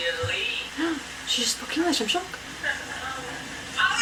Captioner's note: gasps